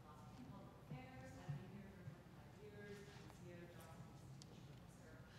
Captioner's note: speaking off mic